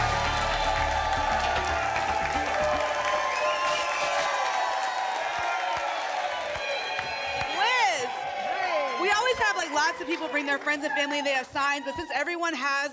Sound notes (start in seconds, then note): 1.9 applause and cheering cont; 3.4 static; 4.9 applause and cheering cont